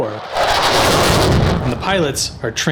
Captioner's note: jet whoosh